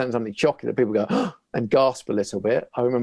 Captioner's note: gasps